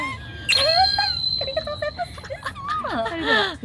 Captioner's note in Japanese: 笑い